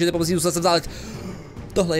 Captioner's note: breath